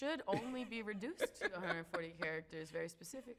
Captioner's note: laughs